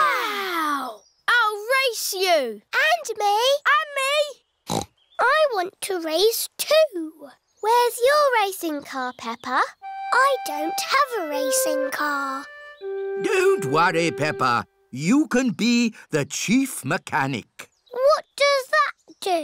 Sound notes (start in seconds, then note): 4.7 snorts